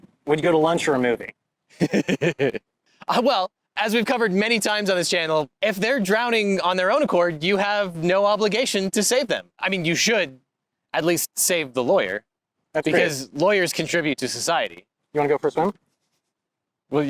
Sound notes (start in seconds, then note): 1.7 laughs